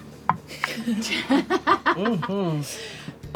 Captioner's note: laughs